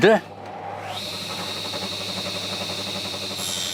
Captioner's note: machine noise